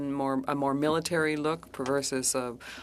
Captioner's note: speaking French